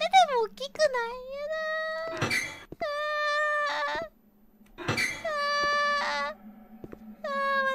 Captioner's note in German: Geräusche einer verängstigten Halbelfin